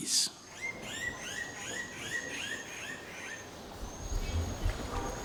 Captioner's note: birds calling